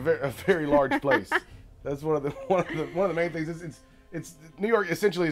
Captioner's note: laughter